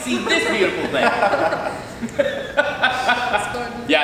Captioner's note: laughing